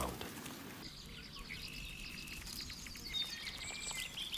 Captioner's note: birds chirping